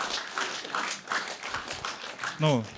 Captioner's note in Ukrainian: оплески